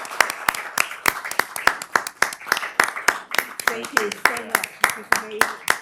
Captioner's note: applause